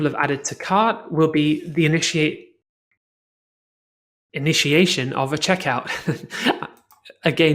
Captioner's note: chuckles